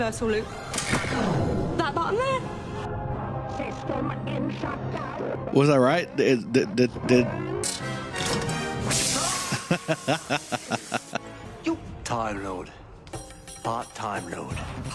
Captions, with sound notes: Was I right? Did- did- did-? [laughing]